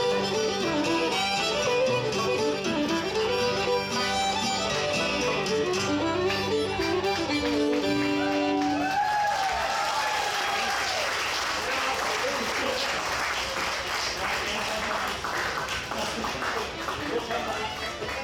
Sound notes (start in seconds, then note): 7.5 audience applauds; 8.1 audience cheers